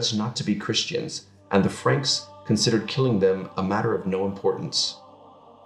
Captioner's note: French